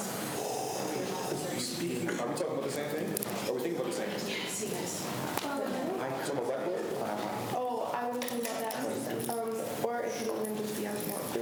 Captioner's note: students chatter